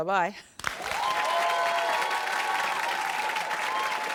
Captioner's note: applause